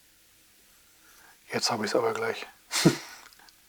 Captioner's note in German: lach